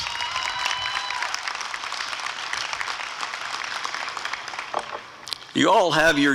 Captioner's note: applause and cheering